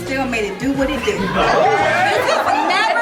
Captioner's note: guests laughing; guests cheering